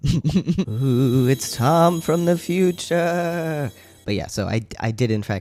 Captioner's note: laugh; sparkly noises